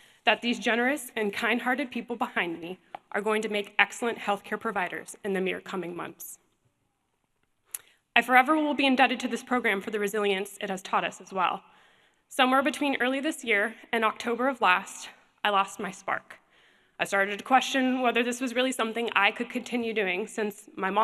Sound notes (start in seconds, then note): none